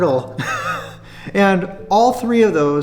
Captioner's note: laughs